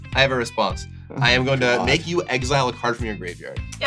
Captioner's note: groans